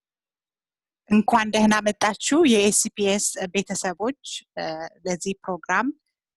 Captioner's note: in foreign language